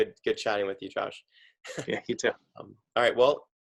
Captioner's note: chuckles